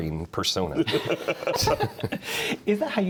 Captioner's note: men laughing